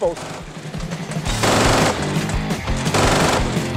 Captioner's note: gunfire popping